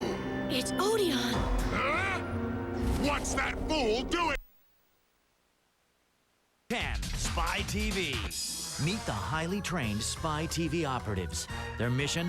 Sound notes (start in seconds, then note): 1.5 gasps